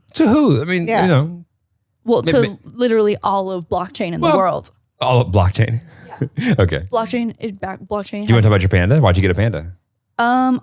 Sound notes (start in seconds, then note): 5.0 laughs